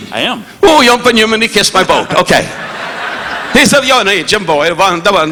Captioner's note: Don speaking in foreign language